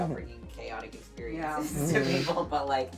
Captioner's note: laughing